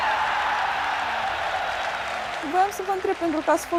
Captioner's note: cheers